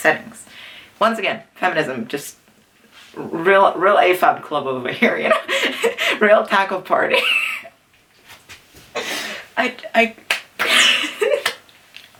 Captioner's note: wheeze